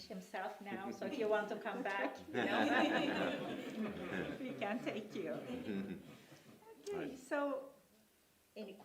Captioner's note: laughter